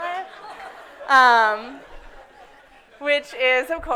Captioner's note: audience laughs